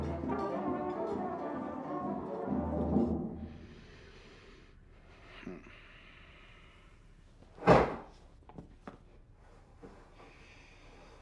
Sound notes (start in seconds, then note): 7.6 head thudding